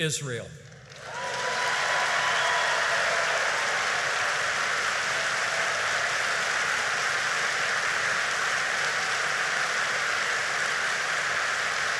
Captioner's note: applause